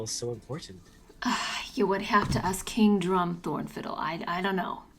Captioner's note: sighs